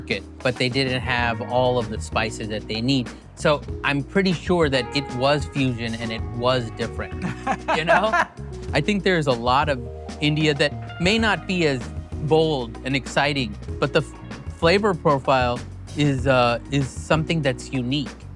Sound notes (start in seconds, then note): 7.2 laughs